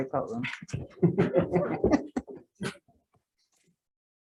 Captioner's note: group laughs